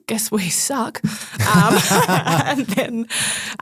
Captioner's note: group laughing